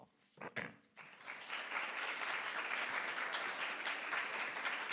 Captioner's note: audience applause